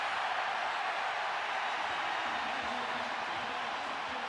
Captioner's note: cheers, applause